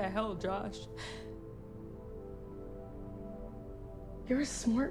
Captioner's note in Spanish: Sollozando